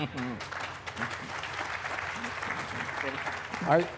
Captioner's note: applause